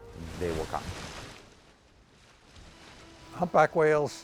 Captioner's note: water splashing